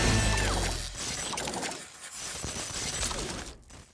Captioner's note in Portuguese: ruído digital